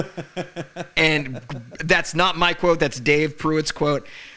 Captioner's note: laughing